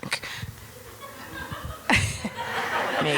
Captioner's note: audience laughing